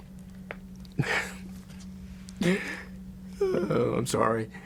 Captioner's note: laughs; laughs